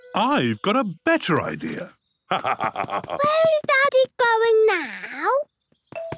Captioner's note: laugh